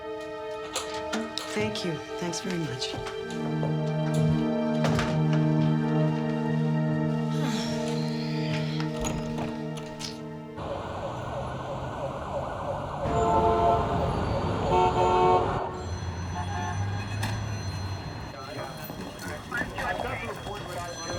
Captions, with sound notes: - Thank you. Thanks very much. (Kristen sighs) (sirens wailing) (horns honking) (phones ringing) (police radio chattering)